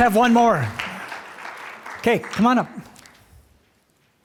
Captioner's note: applause